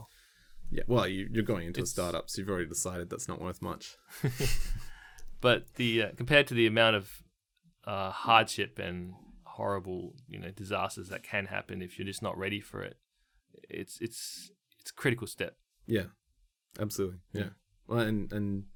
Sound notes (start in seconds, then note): 4.1 laughter